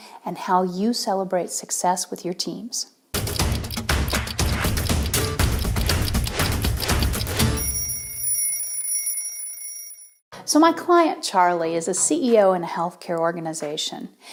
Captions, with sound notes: and how you celebrate success with your teams. (upbeat music) (alarm ringing) So my client, Charlie, is a CEO in a healthcare organization,